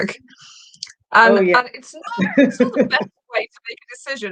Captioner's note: chuckling